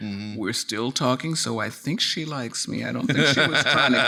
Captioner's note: laughing